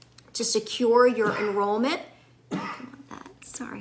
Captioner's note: bystander coughing